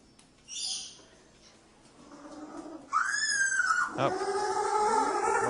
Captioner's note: penguin squealing